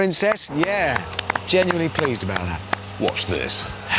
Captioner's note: they clap